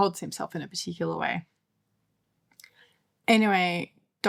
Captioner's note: silence